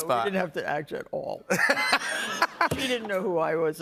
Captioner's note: laughter